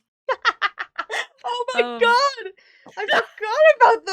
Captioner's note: laughs